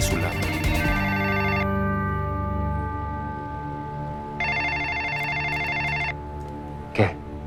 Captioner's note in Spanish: Suena el teléfono